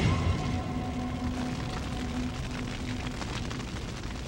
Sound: fire burning

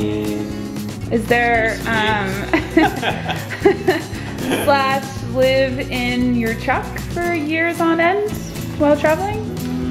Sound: laughing

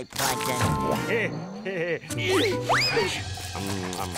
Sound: chuckles, grunting

